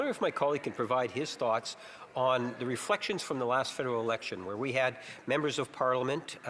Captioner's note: speaking French